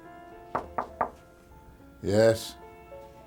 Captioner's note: gentle piano music; knocking on door